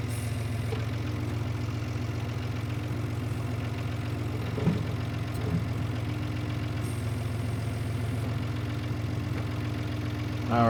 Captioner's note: tractor engine roaring